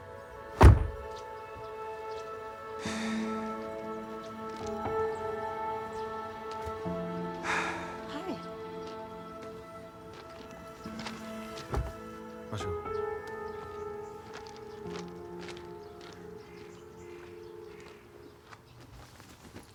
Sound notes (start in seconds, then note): 2.8 sighs